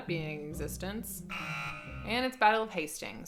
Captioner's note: buzzer sounds